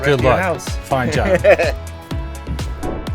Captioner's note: Drew laughing; upbeat music